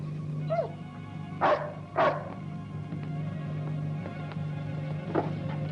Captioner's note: dog barking; dramatic music